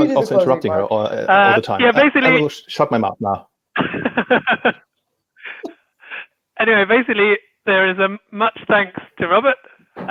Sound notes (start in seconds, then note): 3.8 laughs